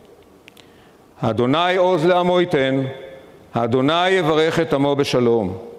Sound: speaking in foreign language

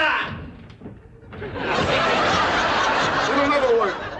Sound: audience laughter

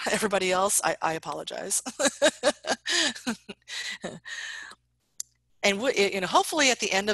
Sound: laughs

